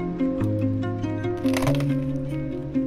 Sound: crunchy

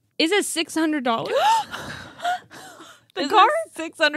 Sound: gasping

